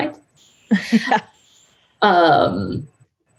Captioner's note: laughing